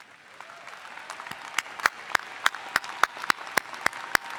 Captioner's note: all applauding